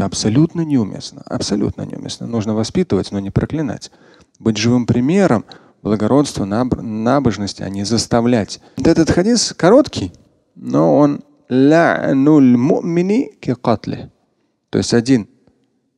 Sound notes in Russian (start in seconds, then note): 12.4 говорит на арабском